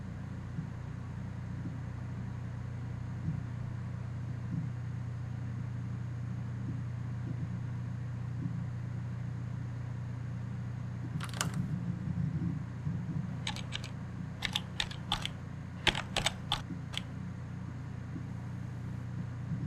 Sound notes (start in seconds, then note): 11.3 buttons clicking